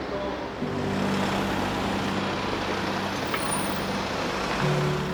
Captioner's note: car engine humming